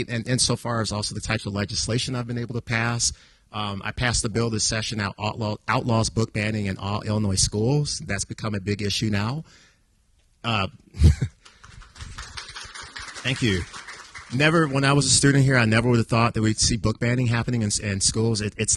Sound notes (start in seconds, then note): 10.9 chuckles; 11.4 audience applauding